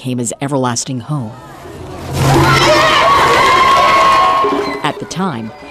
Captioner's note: cheering